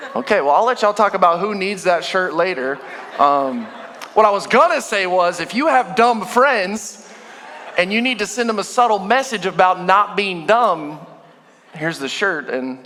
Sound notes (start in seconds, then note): 2.8 congregation laughing